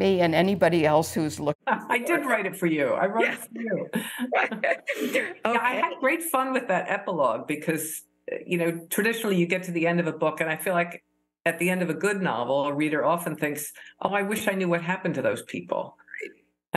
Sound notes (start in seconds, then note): 1.6 laughter